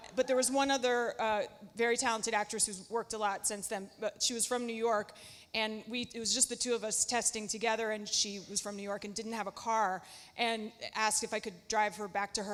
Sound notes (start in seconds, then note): none